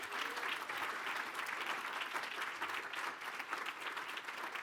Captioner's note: applause